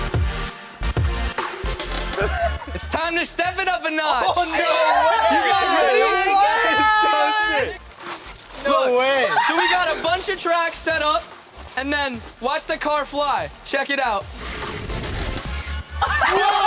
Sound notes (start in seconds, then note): 4.4 cheering; 9.4 screams; 14.7 fast electronic music; 16.0 cheering